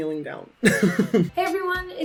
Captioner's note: laughing